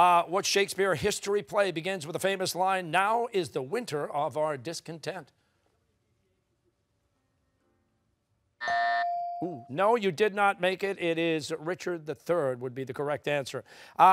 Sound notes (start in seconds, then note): 8.6 buzzer; 8.6 bell rings